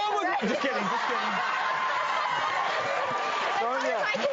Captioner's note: audience laughing and clapping